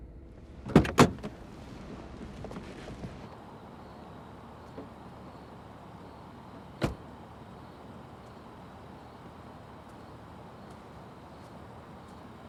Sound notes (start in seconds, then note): 3.8 crickets chirping